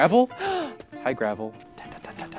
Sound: gasps

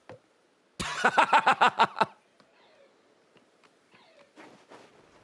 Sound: laughs

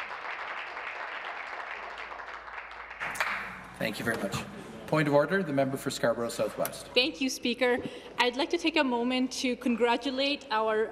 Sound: some Applause

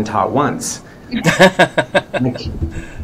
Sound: everyone Laughs

